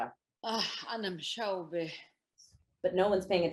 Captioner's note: speaks in foreign language